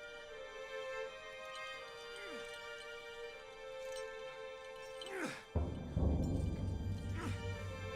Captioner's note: grunting with exertion